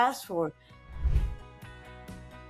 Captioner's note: graphics whoosh; gentle upbeat music